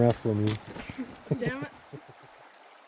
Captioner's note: laughter